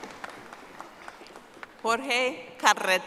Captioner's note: audience applauding